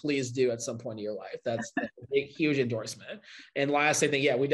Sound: chuckle

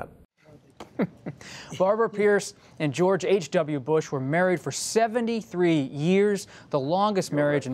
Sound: laughs

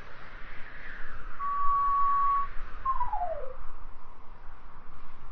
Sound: melodic whistle

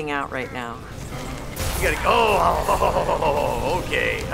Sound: loud thud

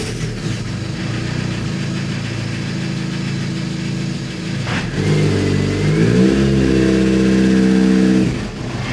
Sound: Project Underdog starts and idles

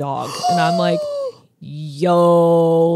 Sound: gasps

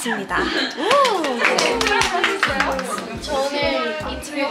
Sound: round of applause

